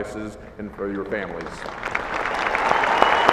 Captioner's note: applause